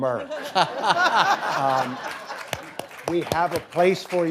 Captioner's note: audience laughing